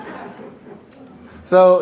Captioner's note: laughter